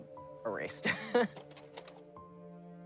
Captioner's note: laughing; soft dramatic music